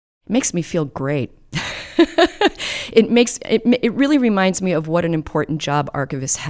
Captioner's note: laughs